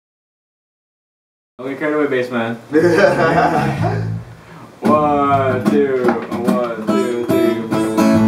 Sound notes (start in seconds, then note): 2.8 laughter